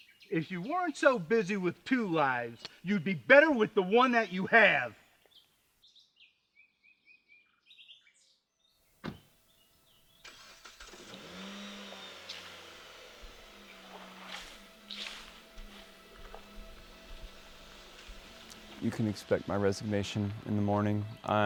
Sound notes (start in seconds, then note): 9.0 car door shuts; 10.2 engine starts